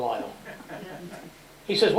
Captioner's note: laughter